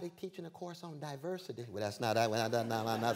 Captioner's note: stammering; laughter